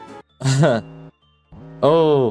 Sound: chuckles

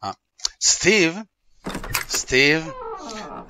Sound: door opens and closes

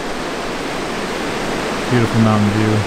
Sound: water rushing

